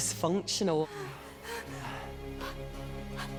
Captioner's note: groans